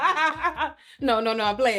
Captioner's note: laughing